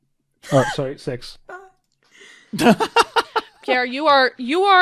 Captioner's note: laughter